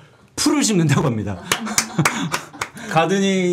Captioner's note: clapping